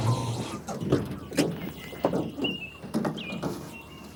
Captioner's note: birds chirping